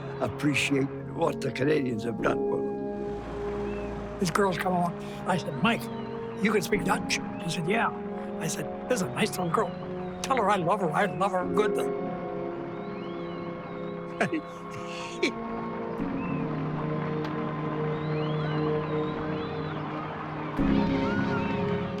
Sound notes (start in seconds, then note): 14.1 laughing; 16.1 cheering